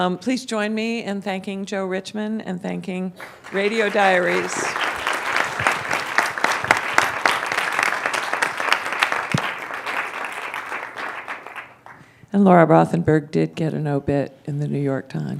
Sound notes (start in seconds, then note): 3.2 applause